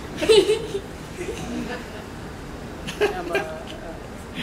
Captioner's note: laughs; laughter